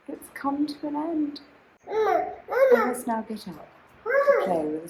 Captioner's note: babbling